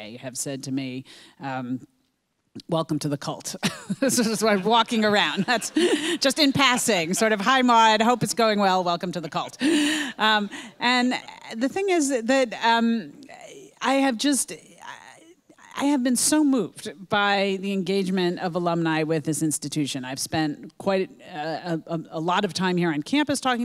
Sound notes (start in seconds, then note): 4.2 laughs